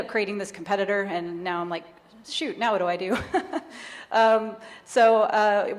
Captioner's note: chuckles